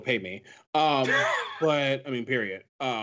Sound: laughs

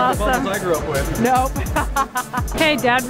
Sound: laughing

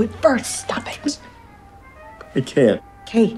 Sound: sobs

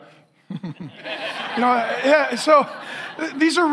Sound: chuckles; congregation laughing

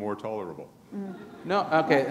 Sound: laughter

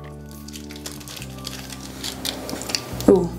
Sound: packet clinks; plastic crinkles

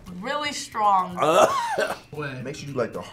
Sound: coughs

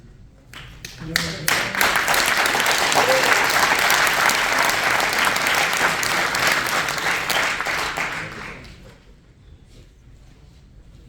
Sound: applause

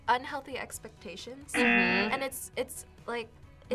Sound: buzzer rings

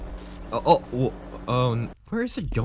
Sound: stammering

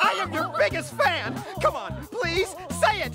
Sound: screaming laughter

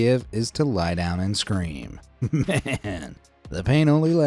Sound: giggling

